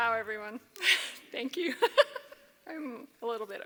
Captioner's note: laughs